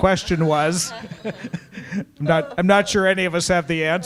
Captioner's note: all laughing